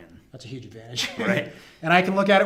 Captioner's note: laughs